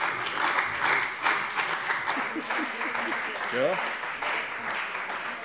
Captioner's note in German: Beifall bei der CDU und dem BÜNDNIS 90/DIE GRÜNEN